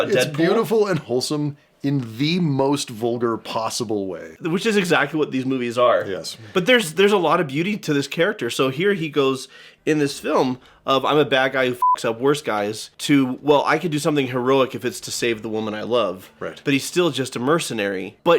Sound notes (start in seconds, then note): 11.8 beeps